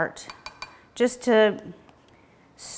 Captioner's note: spoon tapping